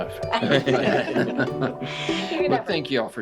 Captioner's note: everyone laughs